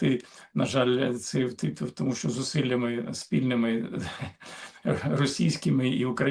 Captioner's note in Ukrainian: прочищення горла